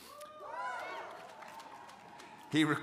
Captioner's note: crowd cheering